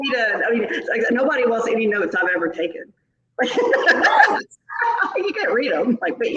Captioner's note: laughs